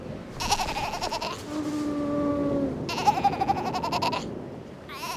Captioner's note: sea lion pup chattering